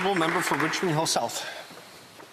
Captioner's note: applause